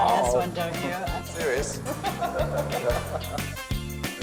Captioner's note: laughs